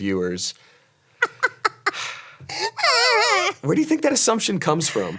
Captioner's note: Ironmouse laughs